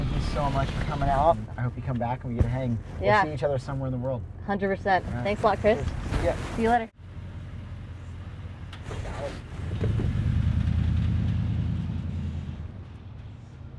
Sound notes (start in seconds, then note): 6.9 engine roaring